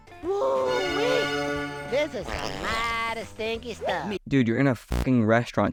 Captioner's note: farts